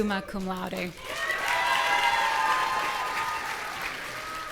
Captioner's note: audience cheering